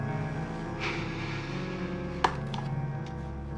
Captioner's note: exhaling heavily